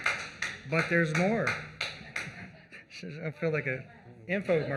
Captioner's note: applause